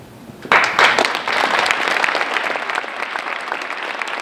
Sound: applause

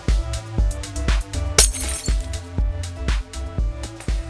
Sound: disco ball shatters

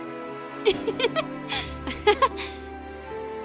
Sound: giggles

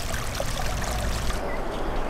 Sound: water flowing

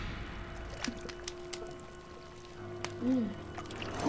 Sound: liquid burbling

